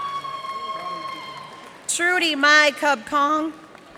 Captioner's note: cheers and applause